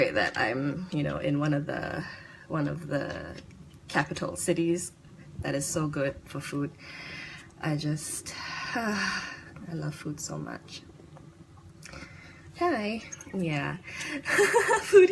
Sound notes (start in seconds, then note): 8.2 sigh; 14.2 laughs